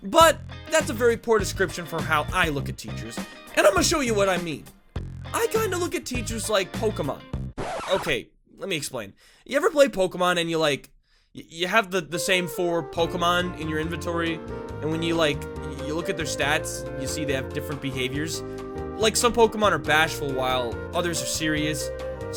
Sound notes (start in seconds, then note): 7.6 scree